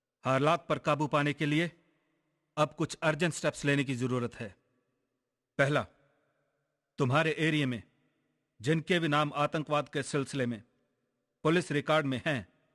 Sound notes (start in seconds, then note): none